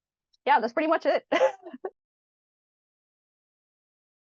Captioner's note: laughs